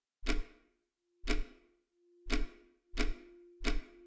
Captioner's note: clock ticking